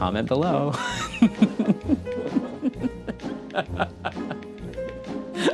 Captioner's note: laughing